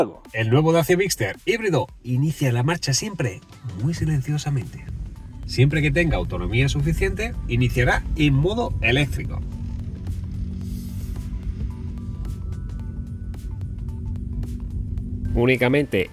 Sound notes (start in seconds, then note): 9.3 sound of the electric motor